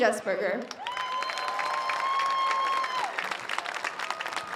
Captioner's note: audience cheers